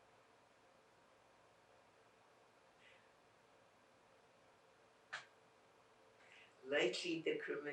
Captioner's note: pauses 6 seconds